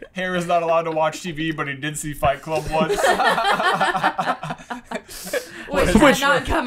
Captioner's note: laughter